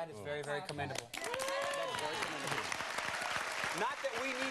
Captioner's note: crowd applauds